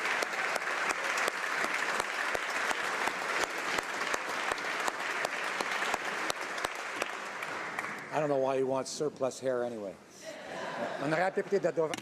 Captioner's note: applause